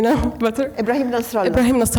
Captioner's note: speaking Arabic name